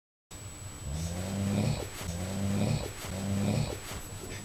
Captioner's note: snoring